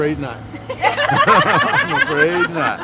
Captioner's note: ladies laughing